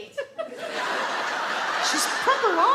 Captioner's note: audience laugh